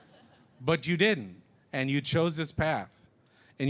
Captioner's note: laughter